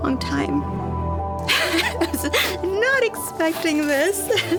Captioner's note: laughs